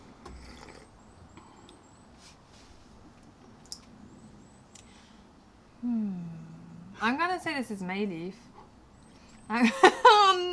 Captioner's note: sips tea